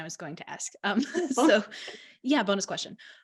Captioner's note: both laughing